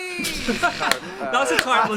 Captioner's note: chuckling